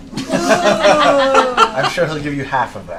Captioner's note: laughter